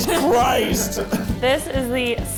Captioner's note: laughing